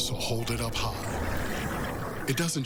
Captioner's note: beer pouring